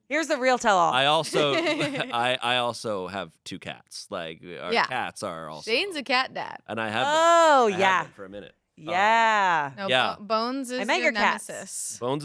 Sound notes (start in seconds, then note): 1.0 laughs